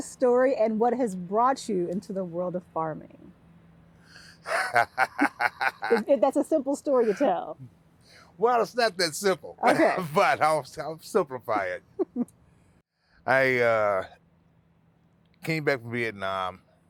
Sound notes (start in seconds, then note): 4.4 laughing